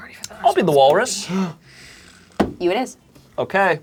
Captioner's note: gasping